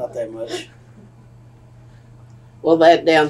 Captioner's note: laughter